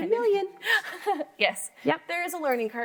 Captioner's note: laughs